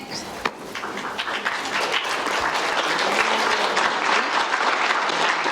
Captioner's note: clapping